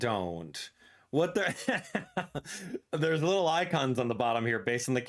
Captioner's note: laughs